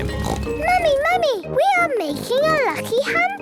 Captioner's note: snorts